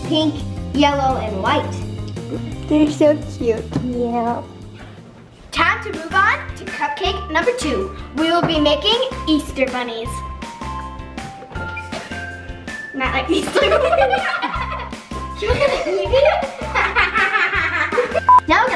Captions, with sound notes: pink, yellow, and white. - They're so cute. - Yeah. - Time to move on to cupcake number two, we will be making Easter bunnies. Not like these two. (laughing) - You're gonna eat me? (laughing)